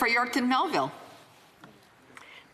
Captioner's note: speaking French